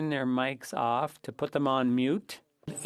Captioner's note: speaking French